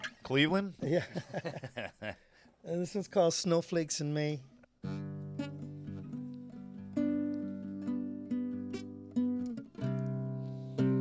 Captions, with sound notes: - Cleveland? (both chuckling) - This one's called "Snowflakes in May."